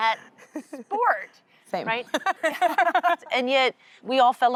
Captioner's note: laughter